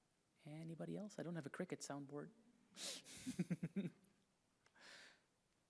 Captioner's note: chuckles